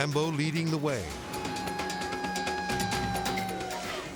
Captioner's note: crying; crowd